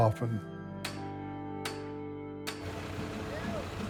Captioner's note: somber pensive music; hammer banging; drill whirring